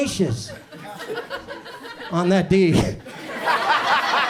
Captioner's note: audience chuckles